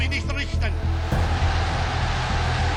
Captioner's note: crowd erupts in cheers